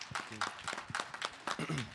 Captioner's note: applause